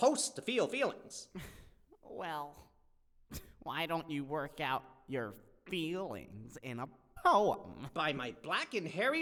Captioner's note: sighs